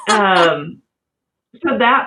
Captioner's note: laugh